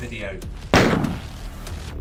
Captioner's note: gunshot